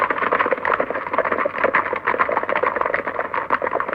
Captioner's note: hooves clopping